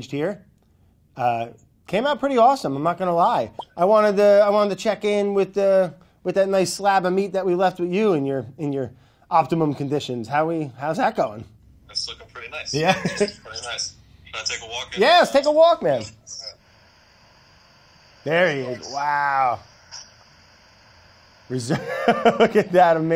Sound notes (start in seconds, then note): 12.6 laughs; 21.6 laughs